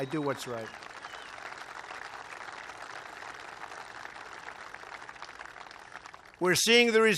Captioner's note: applause